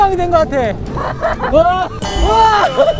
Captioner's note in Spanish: ¡Jaja!